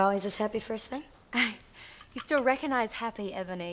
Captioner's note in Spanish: se ríe